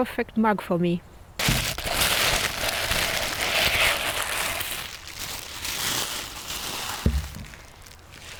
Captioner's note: paper crinkeling